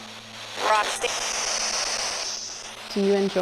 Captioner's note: spirit box voice